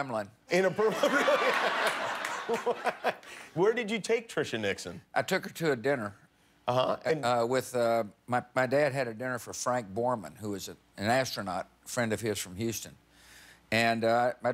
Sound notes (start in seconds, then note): 0.8 laughter